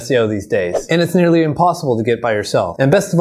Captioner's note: air whooshing